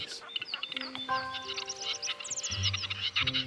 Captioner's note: birds nattering